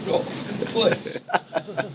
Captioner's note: laughing